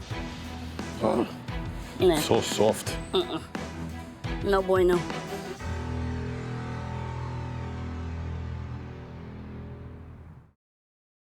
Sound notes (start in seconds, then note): 1.0 grunts; 5.3 tense music